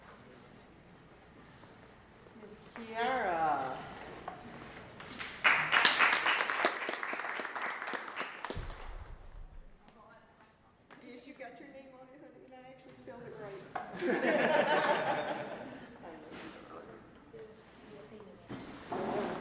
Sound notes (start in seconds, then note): 5.1 applause; 17.9 laughter